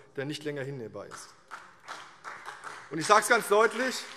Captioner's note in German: Beifall CDU und BÜNDNIS 90/DIE GRÜNEN